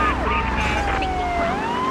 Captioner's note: car engine roaring